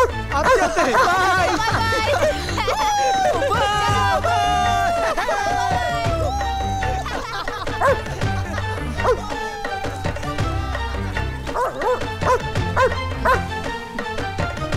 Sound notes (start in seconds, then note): 7.6 dog barking; 11.4 dog barking